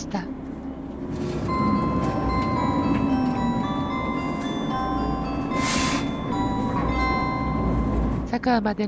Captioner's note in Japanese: 高知駅発車後の♪jr四国チャイムが鳴っています